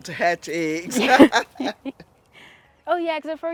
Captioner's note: both laugh